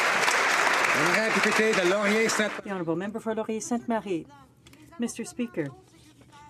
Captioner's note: some Applause